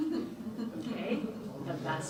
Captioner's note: audience laughs